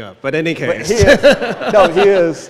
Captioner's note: laughs